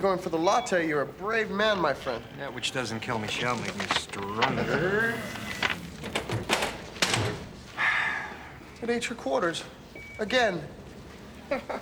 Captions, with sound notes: Ah, you're going for the latte. You're a brave man, my friend. That which doesn't kill me shall make me stronger. (sighs) It ate your quarters, again.